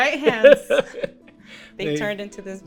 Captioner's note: laughs